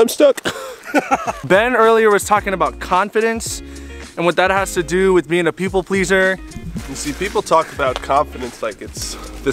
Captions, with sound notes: I'm stuck. (laughs) - Ben, earlier was talking about confidence, and what that has to do with being a people pleaser. - You see people talk about confidence like it's,